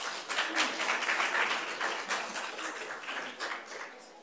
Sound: applause

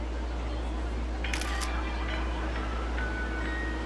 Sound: camera shutter

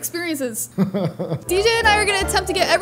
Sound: laughs

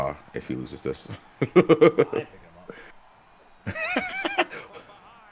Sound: laugh

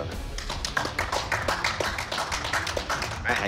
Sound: clapping

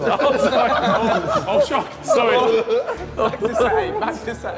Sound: all laughing

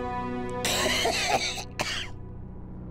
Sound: coughing

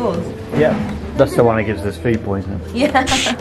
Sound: laughs

